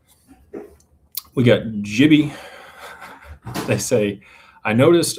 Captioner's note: clears throat